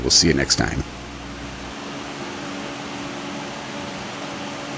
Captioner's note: fan blowing